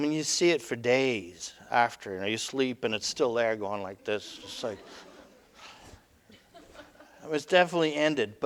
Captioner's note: audience: Laughter